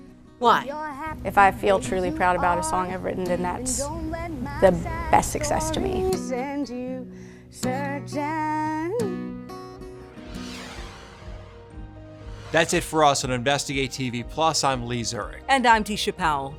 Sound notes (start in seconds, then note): 9.8 graphic whooshing